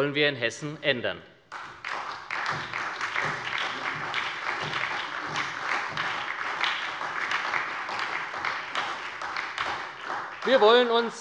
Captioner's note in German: Beifall bei der SPD